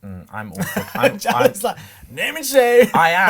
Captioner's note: laughs